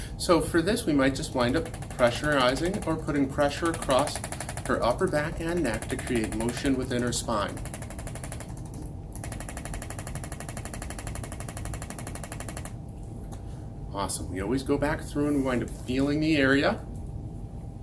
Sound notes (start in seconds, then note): 9.1 machine clicking rapidly